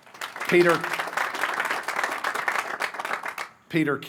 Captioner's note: applause